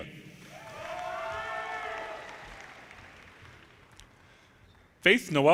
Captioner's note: audience cheers and applause